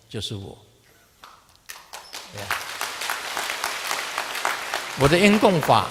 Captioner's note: audience applause